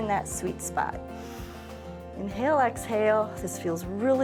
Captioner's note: inhales